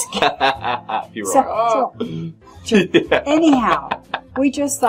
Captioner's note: laughs